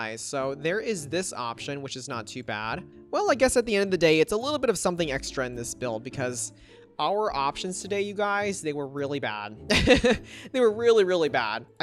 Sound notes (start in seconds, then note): 9.8 laughs